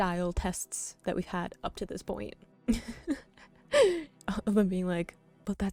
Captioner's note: laughing